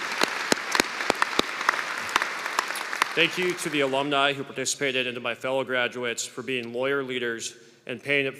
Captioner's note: applause